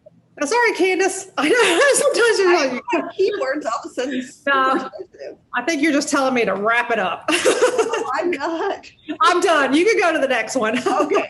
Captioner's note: laughing